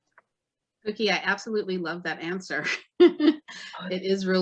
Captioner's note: chuckles